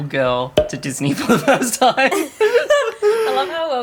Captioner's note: laughter